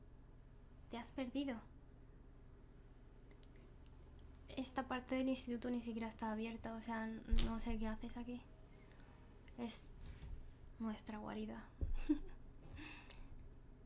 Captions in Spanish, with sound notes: ¿Te has perdido? Esta parte de la escuela ni siquiera está abierta. No sé que haces aquí. Es...Nuestra Guarida (RISAS)